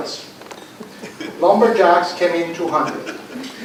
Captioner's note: laughter